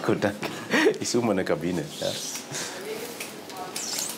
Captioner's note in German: lachend